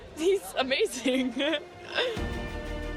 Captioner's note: chuckling; inspirational music